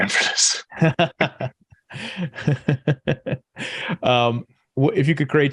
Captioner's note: laughing